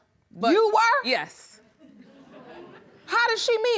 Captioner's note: audience giggling